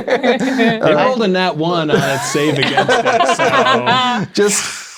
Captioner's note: players laughing